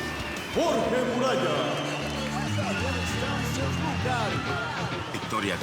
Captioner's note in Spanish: Aplausos